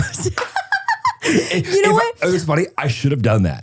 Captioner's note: person laughing